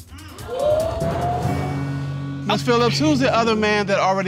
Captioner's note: audience exclaiming